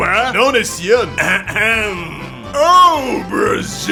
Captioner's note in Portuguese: ahem